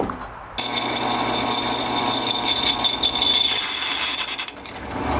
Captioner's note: drill whirring